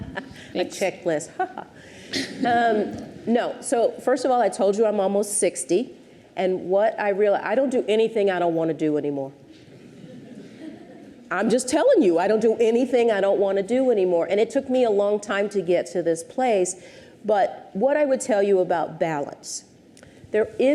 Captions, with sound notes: - (laughs) A checklist, haha. (audience chuckles) No, so first of all, I told you I'm almost 60, and I don't do anything I don't want to do anymore. (audience titters) I'm just telling you, I don't do anything I don't want to do anymore, and it took me a long time to get to this place, but what I would tell you about balance: